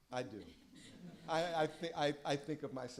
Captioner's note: laughter